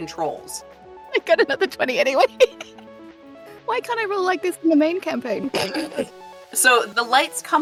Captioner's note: AMANDA snickers